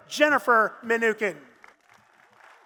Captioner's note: applause